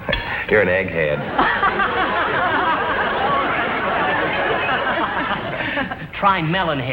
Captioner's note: Mr. Fuddy and Elizabeth laugh